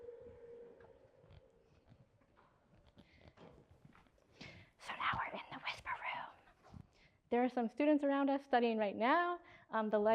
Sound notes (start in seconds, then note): 4.8 whispers